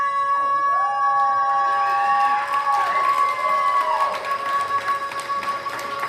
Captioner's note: crowd cheering and applauding